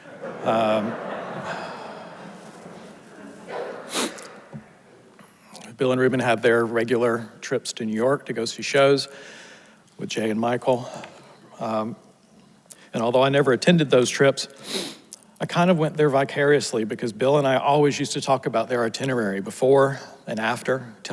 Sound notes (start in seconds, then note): 0.0 audience laughs; 3.3 sniffles